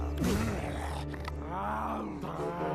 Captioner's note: growling